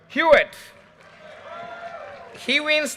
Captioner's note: audience cheers and applause